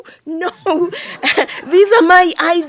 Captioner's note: audience laughing